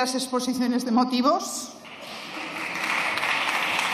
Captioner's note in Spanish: Aplausos